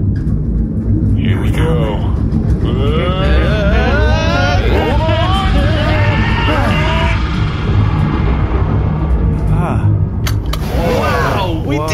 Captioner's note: screaming